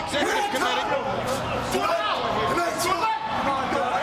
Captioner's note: people chattering